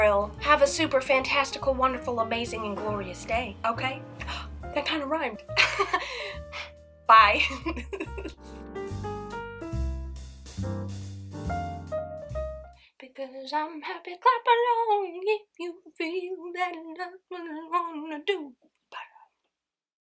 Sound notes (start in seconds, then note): 6.0 gasp; 7.4 laughs; 12.9 singing